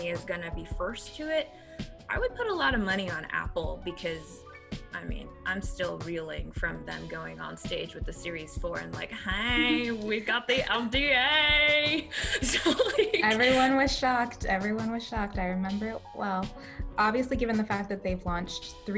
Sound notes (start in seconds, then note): 12.0 laughs